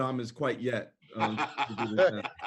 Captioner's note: laughter